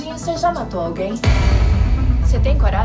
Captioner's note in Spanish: estallido